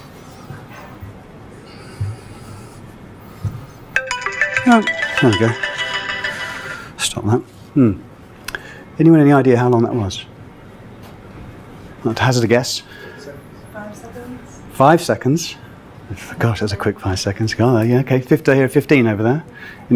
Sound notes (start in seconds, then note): 3.9 phone rings; 13.5 male Voice